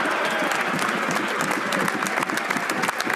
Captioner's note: some Applause